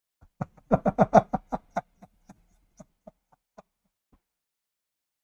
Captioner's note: Ketawa